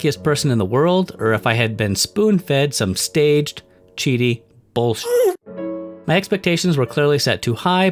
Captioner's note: ghast scream